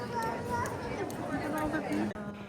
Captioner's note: speaking in foreign language